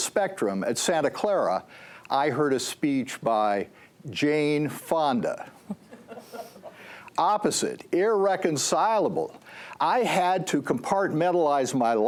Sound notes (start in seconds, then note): 5.5 laughter